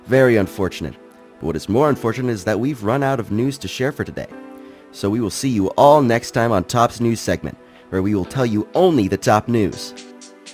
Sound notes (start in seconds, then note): none